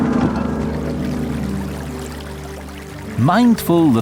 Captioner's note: water trickling